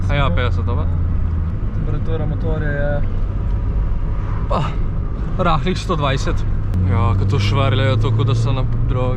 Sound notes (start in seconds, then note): 4.3 random noise